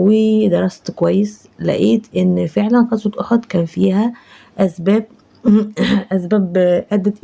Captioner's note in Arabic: تنحنُح